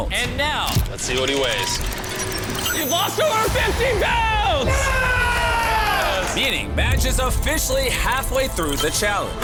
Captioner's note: screaming